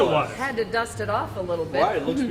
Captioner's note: laughs